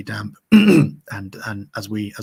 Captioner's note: clears throat